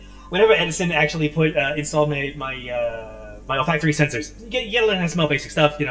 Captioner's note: while stammering